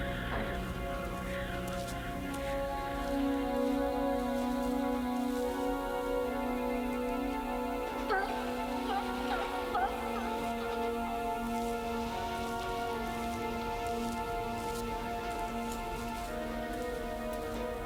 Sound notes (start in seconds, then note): 8.3 girl whimpering; 13.1 suspenseful music